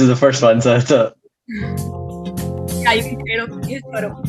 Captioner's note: laugh